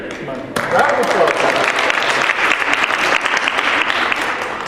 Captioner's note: applause